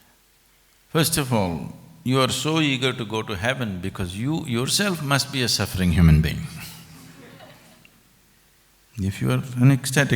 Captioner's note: few laugh